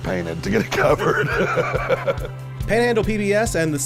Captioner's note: laughs